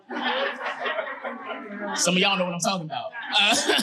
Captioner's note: audience laughing